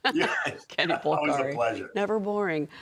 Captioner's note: laughter